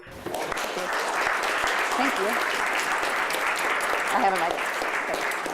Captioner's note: applause